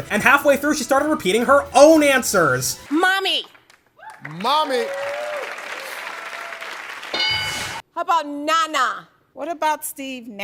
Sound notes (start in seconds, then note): 7.1 ding